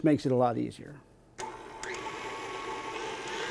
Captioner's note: mixer whirring